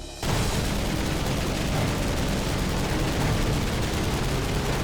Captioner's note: gunfire